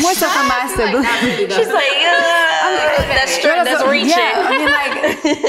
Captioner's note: indistinct conversation